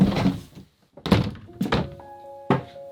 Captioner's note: door closes; soft music